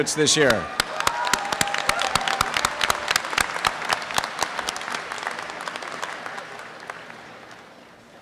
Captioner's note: applause